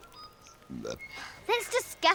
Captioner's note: Erin belching